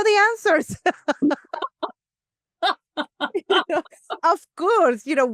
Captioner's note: laughter